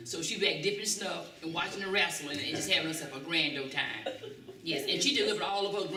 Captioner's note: laughter